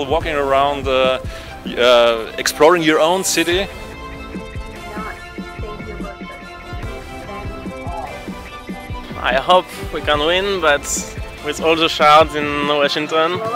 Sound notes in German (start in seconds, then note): 4.5 Voiceover